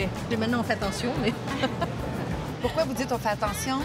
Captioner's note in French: rires